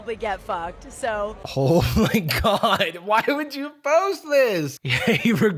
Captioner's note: laughing